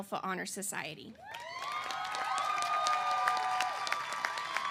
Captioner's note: cheers and applause